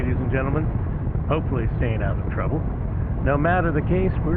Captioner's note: radio